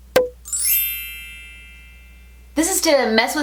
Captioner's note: bell chiming